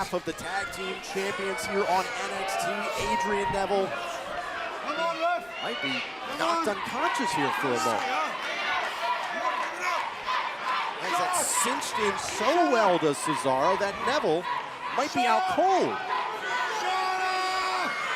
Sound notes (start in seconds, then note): 8.6 crowd cheering